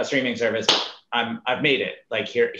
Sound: claps

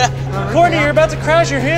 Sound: laughs

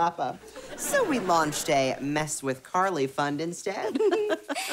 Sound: chuckles

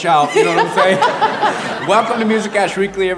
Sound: laughs

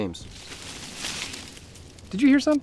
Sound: bushes rustling

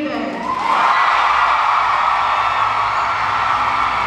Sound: crowd cheering

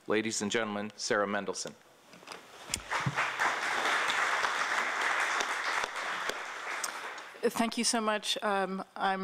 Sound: applause

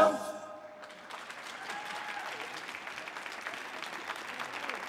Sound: audience applauding

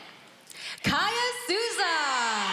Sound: cheering

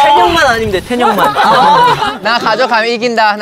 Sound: whispering

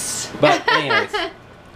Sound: laughs

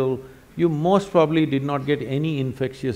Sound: none

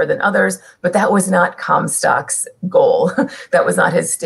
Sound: laughter

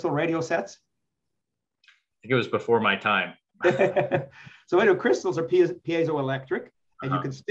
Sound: laughs

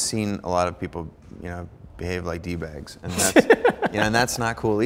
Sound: Ramit laughing

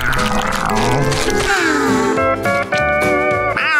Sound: sighing

